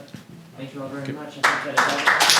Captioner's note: applause